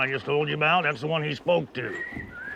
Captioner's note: Bill whistling